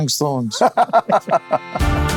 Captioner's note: laughing